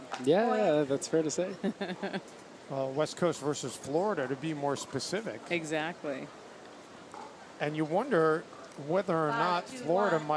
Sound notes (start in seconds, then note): 1.5 laughs